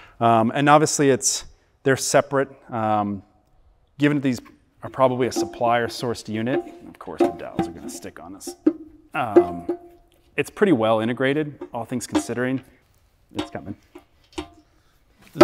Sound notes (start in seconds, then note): 11.2 metal clanking